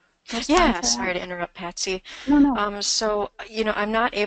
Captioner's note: voiceover; voiceover